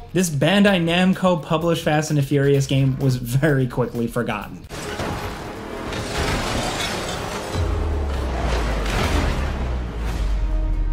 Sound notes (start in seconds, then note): 4.6 cars crashing